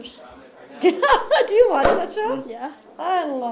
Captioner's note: laughs